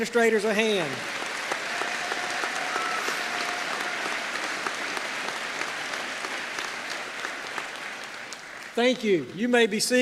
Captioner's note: applause